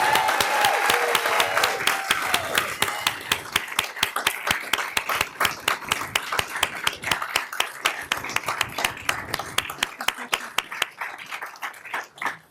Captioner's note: applause